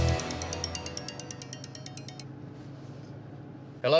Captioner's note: phone ringing